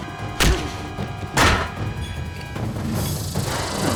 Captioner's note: fist thuds; head thuds; intense music